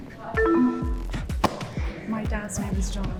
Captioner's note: electronics beep